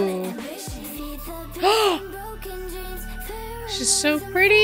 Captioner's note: gasp